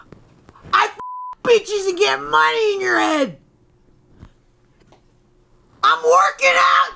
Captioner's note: beep